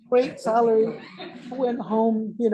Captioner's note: laughter